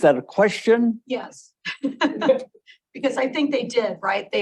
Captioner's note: laughs